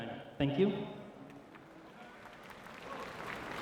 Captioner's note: clapping